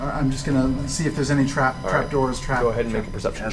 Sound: none

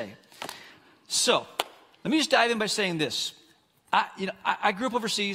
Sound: claps

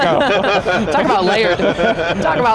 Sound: all laughing

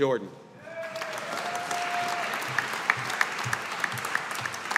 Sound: audience applauding

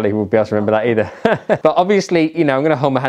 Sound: chuckles

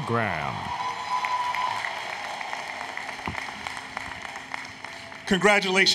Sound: applause, Cheering

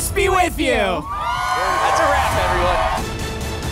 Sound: crowd cheering

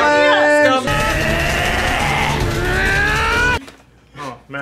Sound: anime yelling and punches

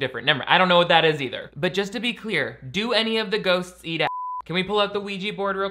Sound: beep

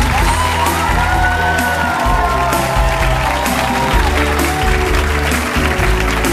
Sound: audience cheering and clapping

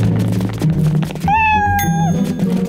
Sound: meowing

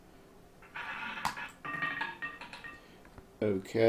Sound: ball rolling

